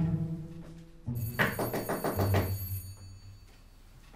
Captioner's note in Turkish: Kapı zili sesi; Kap çalma sesi